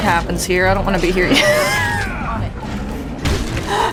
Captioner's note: laughing